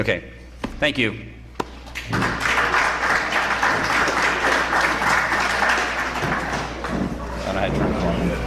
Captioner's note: applause